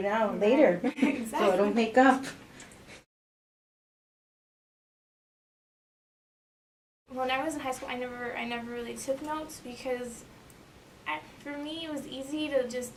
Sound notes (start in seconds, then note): 4.3 blank audio